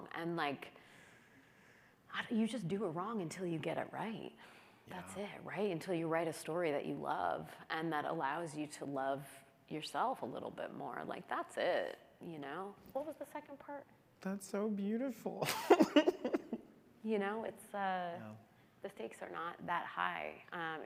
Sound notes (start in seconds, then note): 15.4 chuckles